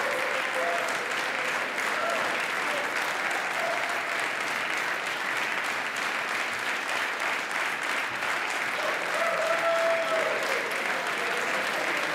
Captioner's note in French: Applaudissements